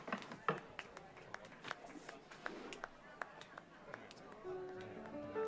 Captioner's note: distant clapping